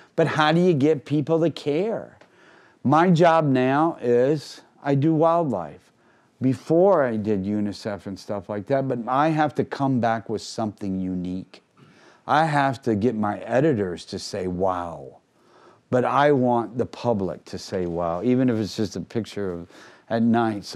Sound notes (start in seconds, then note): none